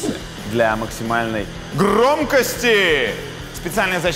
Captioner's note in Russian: громко